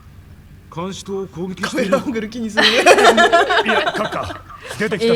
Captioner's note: laugh